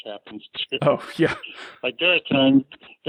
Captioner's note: laughs